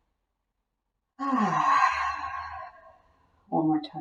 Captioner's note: audible sigh